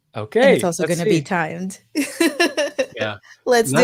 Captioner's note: laughing